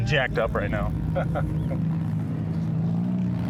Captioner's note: laughter